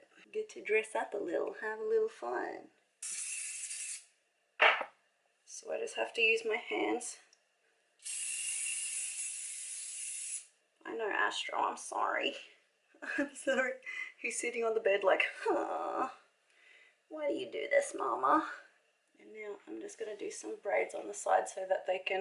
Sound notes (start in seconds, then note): 3.0 spraying; 8.0 spraying